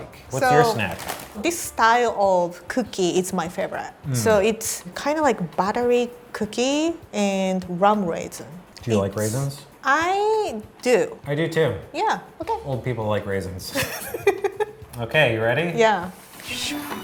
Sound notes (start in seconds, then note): 13.8 laughing; 16.8 jingle